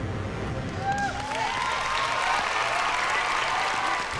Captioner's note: cheering, whooping